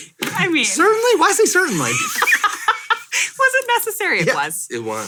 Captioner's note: all chuckling